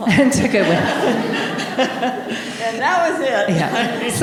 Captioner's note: audience laughing